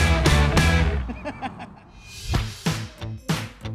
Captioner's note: laughs; lively music